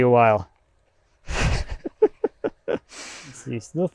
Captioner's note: chuckling